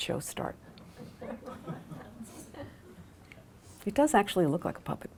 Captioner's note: laughter